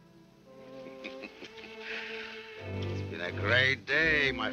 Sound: laughing

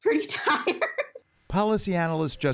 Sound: laughter

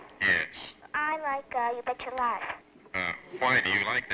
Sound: on phone

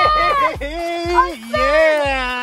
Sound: excited yelling

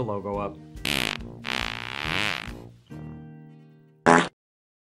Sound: fart noise

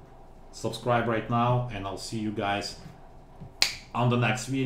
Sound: snap

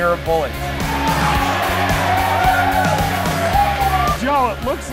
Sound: cheering

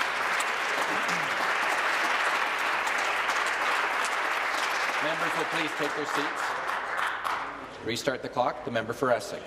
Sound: applause

